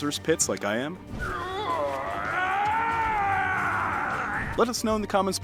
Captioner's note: character groaning